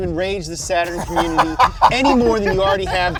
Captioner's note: both laughing